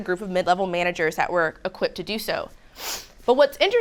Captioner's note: sniffs